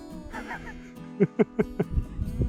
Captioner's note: laughs